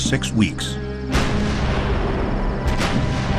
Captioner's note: cannons fire